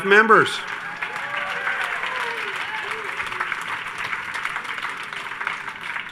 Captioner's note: everyone cheers and applauds